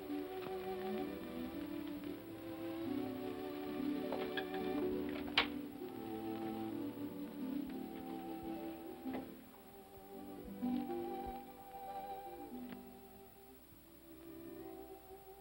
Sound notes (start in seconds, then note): 0.2 sentimental music; 5.0 door opens; 6.9 sentimental music